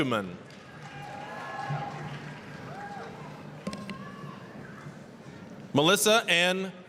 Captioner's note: applause, cheering